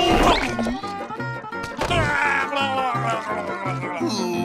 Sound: babbling

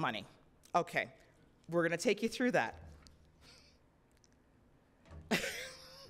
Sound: chuckles

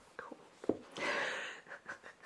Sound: laughs

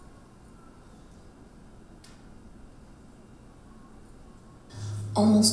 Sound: audience chattering

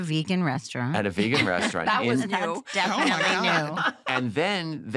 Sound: laughs

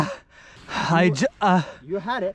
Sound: breathing heavily

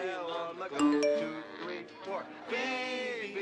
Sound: phone dings

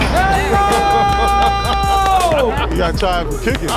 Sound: ball bouncing; ball dunking; guys laughing; hands clapping

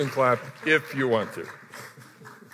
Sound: applause

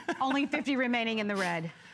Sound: laughter

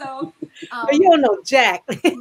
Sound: laughs

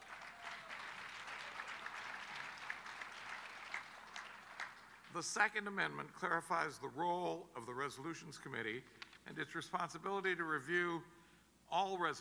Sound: applause

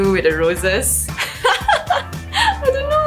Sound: laugh

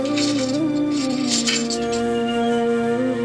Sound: metals clanking

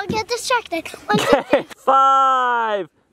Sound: laughs

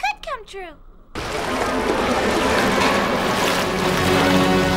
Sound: water splashing

